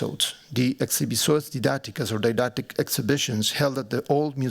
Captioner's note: non-english speech